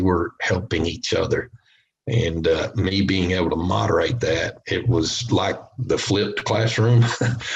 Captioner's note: chuckles